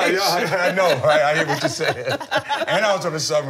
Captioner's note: laughter